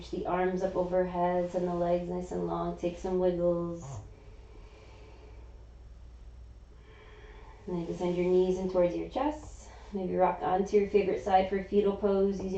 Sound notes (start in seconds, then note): 3.8 inhaling; 6.8 exhaling